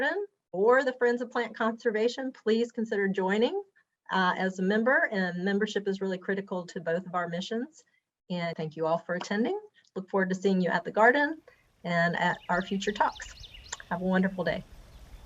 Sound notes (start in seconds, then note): 12.2 bird tweeting